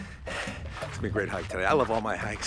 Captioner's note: panting